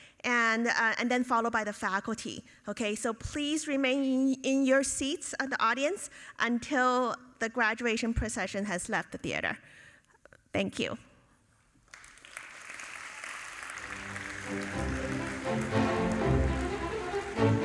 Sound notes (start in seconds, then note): 11.8 audience applauding; 13.7 orchestral music